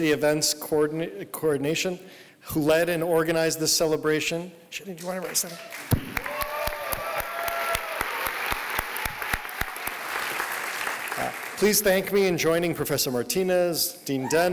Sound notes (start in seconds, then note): 5.0 applause